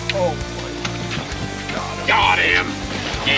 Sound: rod whipping

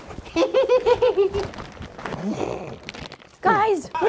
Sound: kids giggling

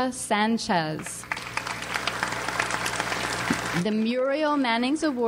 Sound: audience applauds

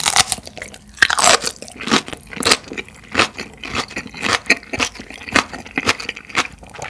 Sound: crunch, crunch, crunch!

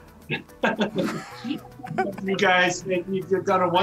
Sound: men laughing

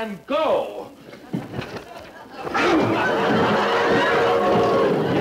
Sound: audience laughing; theme music

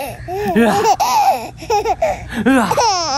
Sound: laughs; growls; laughs

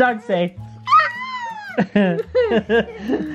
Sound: whimpering; laughing

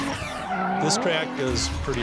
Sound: engine revving; tires screeching

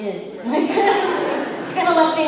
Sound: laughter

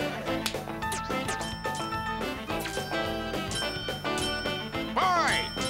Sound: bell ringing

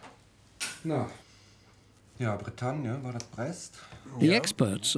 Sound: speaking German

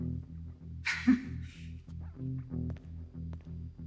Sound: nervous laugh

